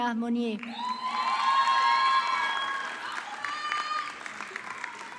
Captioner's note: audience clapping